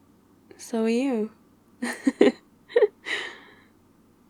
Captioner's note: laughs